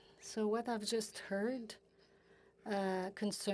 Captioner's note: speaking French